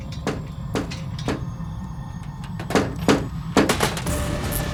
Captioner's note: tapping; tapping gets louder